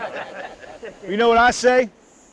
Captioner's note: group laughs